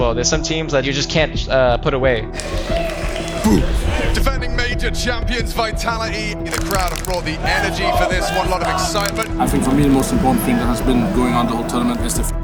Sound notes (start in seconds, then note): 2.3 crowd cheering; 6.4 people clapping